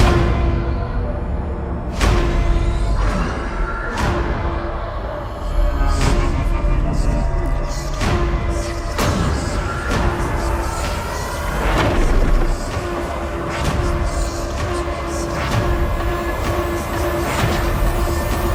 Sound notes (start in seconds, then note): 0.1 intensifying music; 5.6 distorted whispering; 14.6 intensifying music